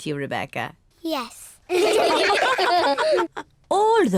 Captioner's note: all laugh